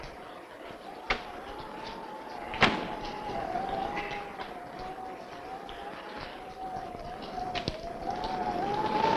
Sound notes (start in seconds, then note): 0.0 rain pattering; 0.0 wind howling